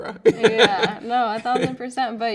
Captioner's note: laughing